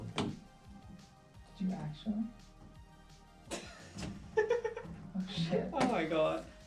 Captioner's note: laughs